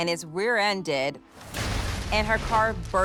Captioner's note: cars thud